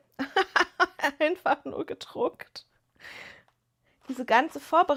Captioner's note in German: gelächter